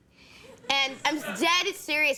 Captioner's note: crowd laughs